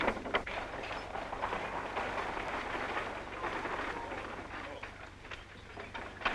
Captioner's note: tools clattering; buggy rattling